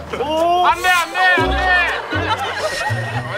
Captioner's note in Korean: 웅성웅성